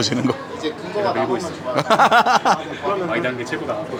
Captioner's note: laughs